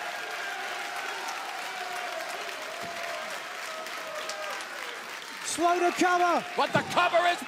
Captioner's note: cheers and applause